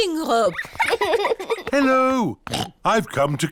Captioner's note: oinks